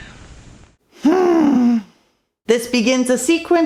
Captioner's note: exasperated sigh